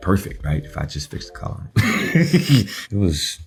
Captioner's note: laughing